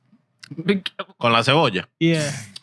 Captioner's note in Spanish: Hablando en idioma extranjero